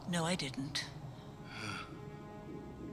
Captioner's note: sighs